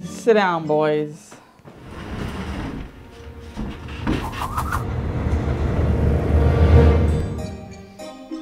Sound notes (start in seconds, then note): 5.0 chairs scraping across the floor